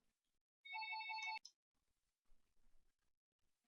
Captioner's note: phone rings